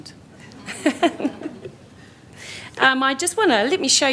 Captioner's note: laughter